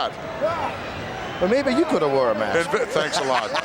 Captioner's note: laughs